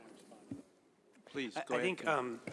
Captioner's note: off microphone